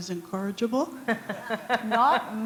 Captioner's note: laughter